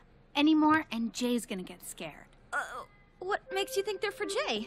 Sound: none

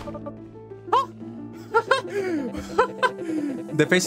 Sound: laughs in this is gonna take forever

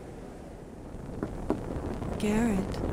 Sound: knock knock

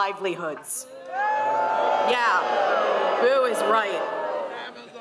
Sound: crowd boos

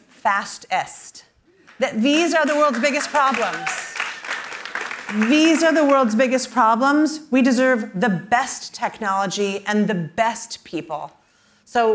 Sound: applause

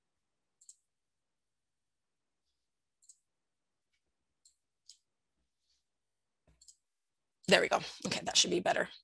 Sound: clicking

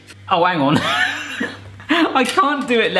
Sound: laughing

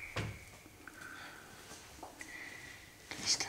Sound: drops of water

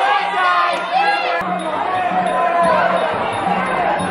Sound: clapping

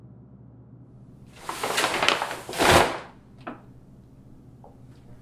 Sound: paper rustling

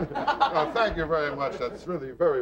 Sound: audience laughing

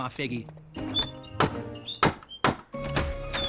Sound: knocking

